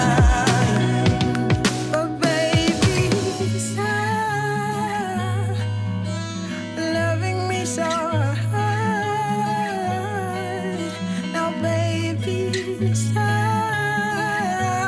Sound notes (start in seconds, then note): 0.0 ooh